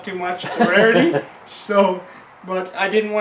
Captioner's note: laughs